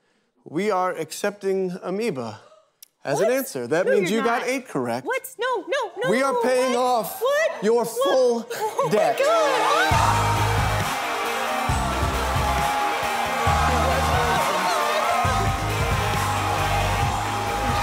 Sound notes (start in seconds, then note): 11.1 cheers and applause